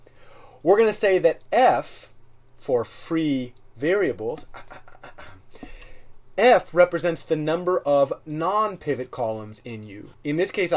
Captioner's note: cough, cough